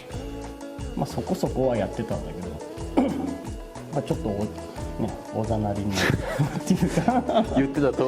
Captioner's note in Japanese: 笑い